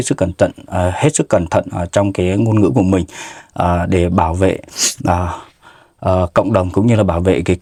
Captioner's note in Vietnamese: khịt mũi